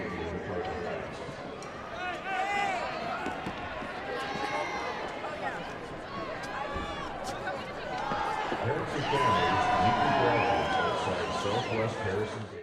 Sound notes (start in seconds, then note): 1.2 crowd talking